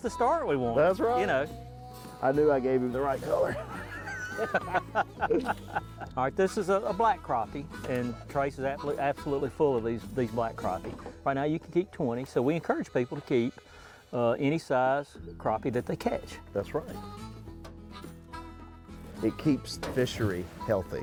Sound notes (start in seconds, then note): 3.2 laughing